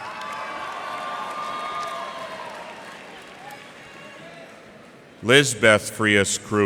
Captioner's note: cheers and applause